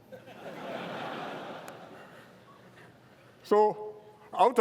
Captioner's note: laughter